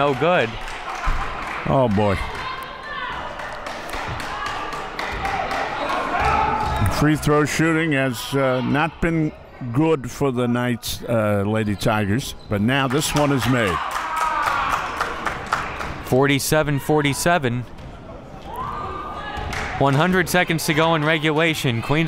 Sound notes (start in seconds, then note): 0.0 clapping; 12.8 crowd clapping